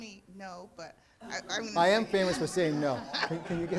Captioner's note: laughing